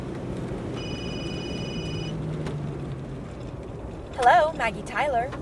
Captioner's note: phone ringing